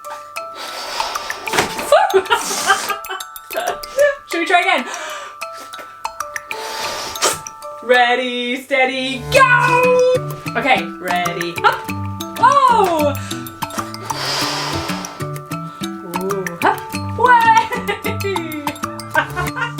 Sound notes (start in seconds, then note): 0.3 whimsical music; 1.5 laughs